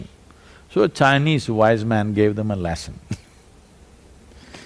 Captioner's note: laughs